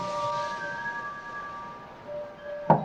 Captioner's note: knocking